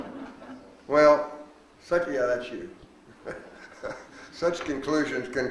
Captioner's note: laughs